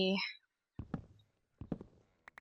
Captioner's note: none